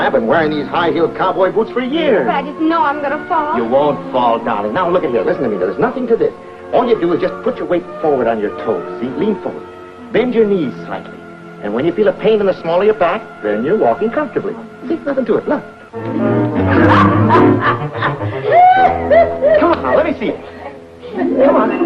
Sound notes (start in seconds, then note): 16.6 Minnie laughing